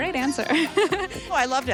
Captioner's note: chuckling; laughs